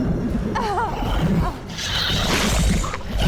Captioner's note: crying